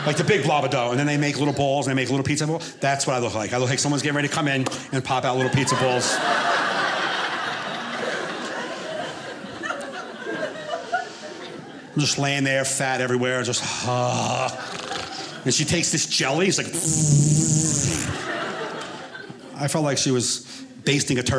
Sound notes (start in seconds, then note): 5.0 audience laughing; 13.8 groans; 17.6 audience laughing